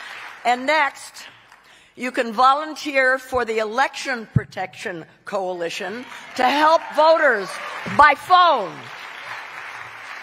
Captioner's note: cheering